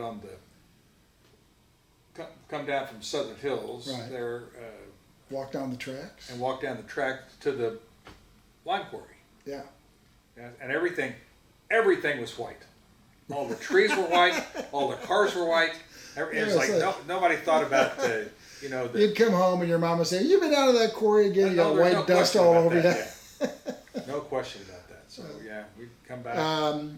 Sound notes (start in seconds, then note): 13.3 laughs